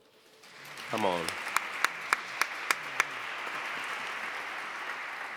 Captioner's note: audience applauds; claps